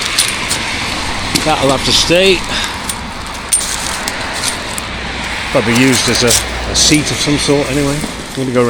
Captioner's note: road noise